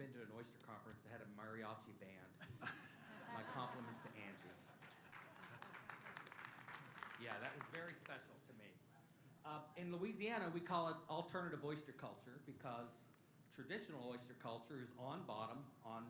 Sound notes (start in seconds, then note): 2.4 laughter; 4.4 applause